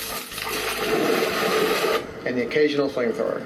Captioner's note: water splashing